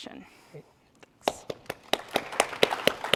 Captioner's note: applause